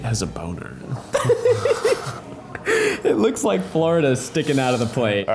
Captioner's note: laughs